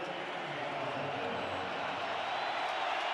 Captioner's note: pa announcement; cheering